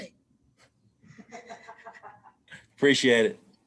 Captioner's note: laughing